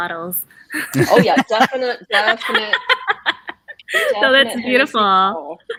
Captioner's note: woman laughs